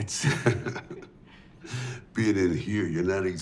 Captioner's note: Dwight chuckling